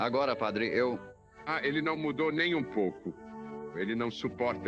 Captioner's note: chuckling